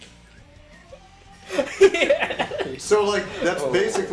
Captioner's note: laughing